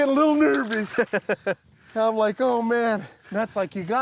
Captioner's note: laughs